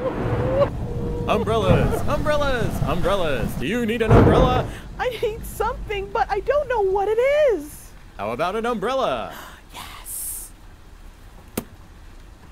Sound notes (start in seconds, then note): 1.0 sobbing; 1.3 thunder; 4.3 sobbing; 9.3 gasps